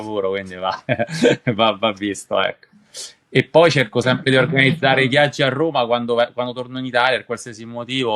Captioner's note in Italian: risate